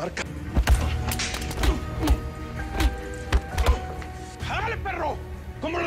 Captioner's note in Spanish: Golpes